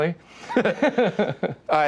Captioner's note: both laugh